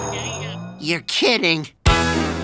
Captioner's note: murmuring